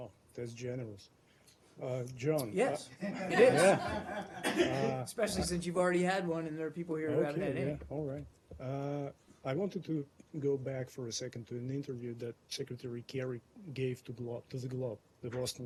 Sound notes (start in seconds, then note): 3.0 laughter